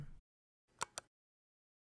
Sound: click

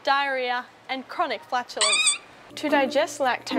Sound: squeak

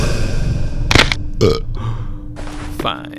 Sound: burp

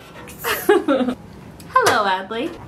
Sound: laughs

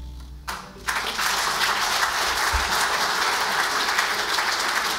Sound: audience applauds

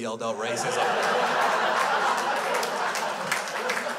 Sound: crowd laughs

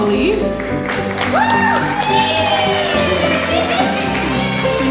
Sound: crowd cheering

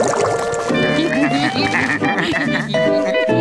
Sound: laughing

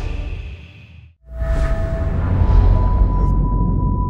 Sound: eerie whoosh

